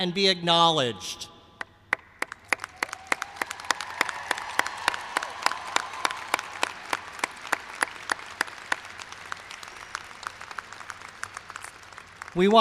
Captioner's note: cheers and applause